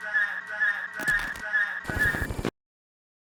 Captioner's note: glitch noise